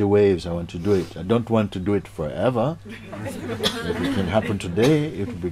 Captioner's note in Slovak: Smiech